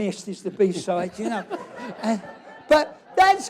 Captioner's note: laughter